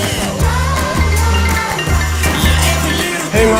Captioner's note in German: Rufton ertönt